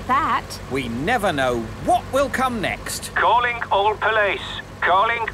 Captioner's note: radio